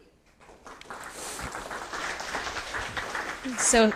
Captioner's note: applause